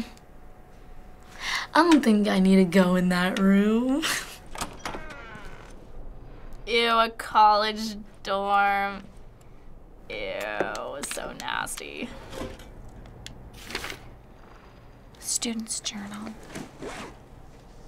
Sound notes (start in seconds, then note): 3.9 chuckles; 4.3 door creaks; 13.5 drawer slides open, papers rustle